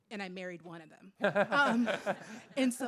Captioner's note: laughs